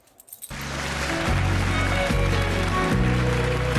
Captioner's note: applause